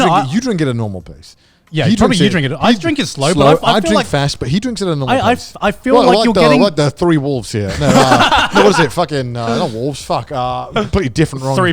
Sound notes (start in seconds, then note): 7.6 laugh